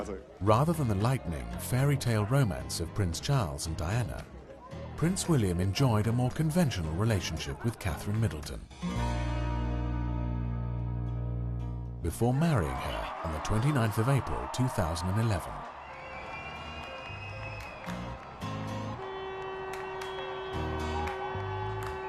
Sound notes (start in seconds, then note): 0.2 voiceover; 15.3 crowd cheering; 19.6 upbeat music